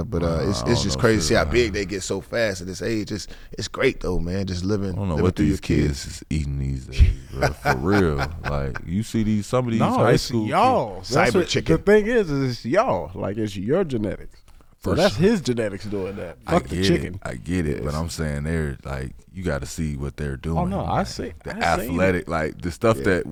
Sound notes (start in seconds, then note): 6.9 laughing